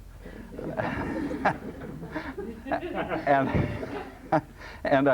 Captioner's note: laughter